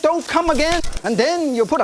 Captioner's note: fapping noises